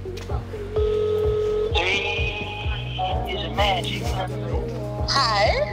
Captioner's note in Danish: Telefon ringer op